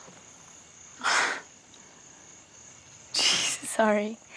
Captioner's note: Sighs